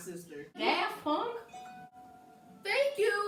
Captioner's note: random on point ding